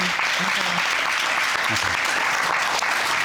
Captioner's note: audience clapping